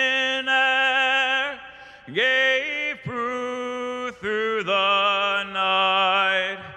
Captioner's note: none